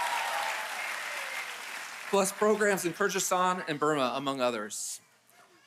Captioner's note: applause